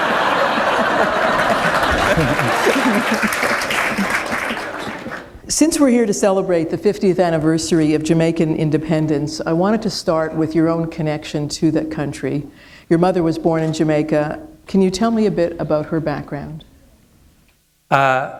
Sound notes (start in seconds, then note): 0.0 laughter; 0.0 applause